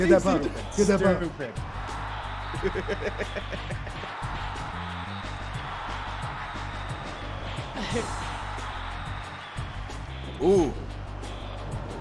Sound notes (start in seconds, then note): 1.5 applause; 2.6 laugh; 7.9 applause